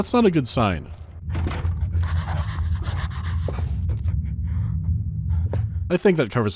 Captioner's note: quiet, contained huffing can be heard beyond the door